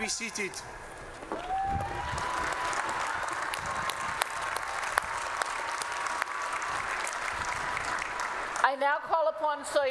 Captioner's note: applause